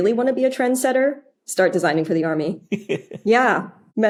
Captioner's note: giggles